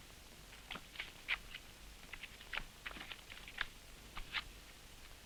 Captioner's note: cards rustling